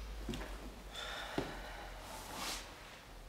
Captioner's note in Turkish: İç çekti